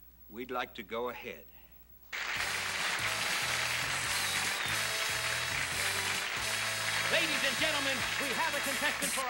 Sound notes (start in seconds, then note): 2.1 applause